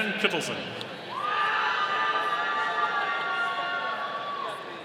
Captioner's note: audience cheering